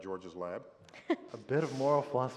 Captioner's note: laughter